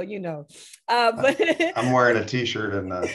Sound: laughs

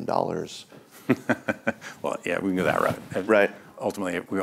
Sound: chuckles

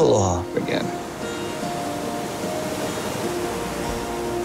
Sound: waves crashing

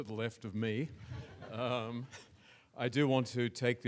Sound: audience laughs

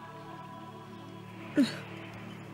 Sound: sobbing

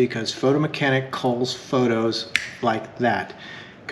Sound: snaps

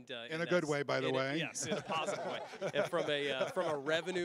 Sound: laughing

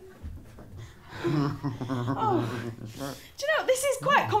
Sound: sinister chuckles

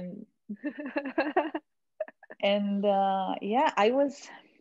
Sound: laughing

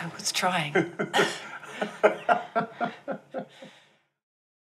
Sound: laugh

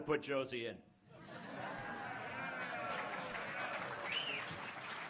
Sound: laughs and applause

